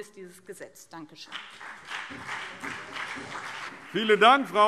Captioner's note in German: Beifall BÜNDNIS 90/DIE GRÜNEN und CDU